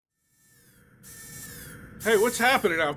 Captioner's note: alarms blaring